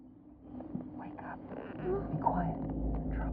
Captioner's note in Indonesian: Berbisik